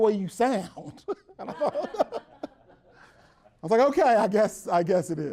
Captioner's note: everyone laughs